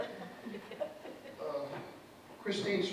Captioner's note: soft laughter from audience